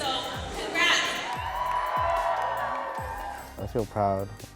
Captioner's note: students cheering